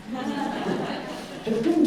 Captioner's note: audience laughs